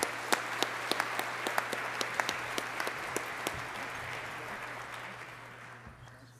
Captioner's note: applause